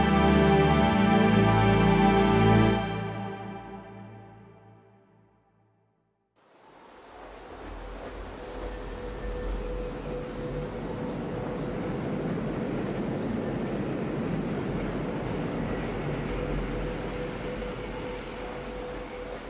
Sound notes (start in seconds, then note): 7.3 bird chirping